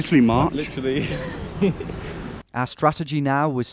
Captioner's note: chuckles